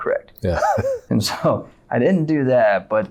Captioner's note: laughing